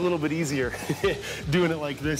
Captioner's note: chuckles